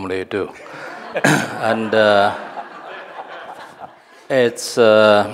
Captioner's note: audience laughing